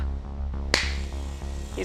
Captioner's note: clap